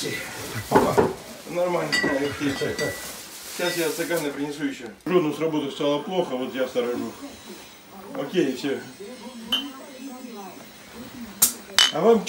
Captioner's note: speaking Russian